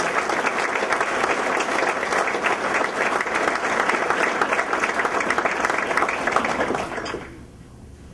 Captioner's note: clapping